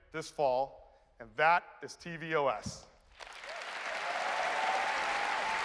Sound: applause

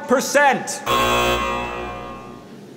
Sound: machine buzzes

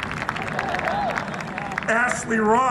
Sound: applause

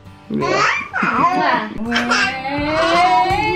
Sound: laughs

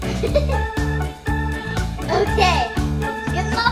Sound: laughs

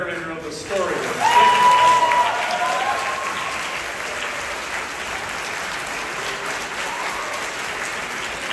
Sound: applause

